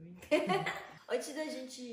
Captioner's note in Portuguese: risos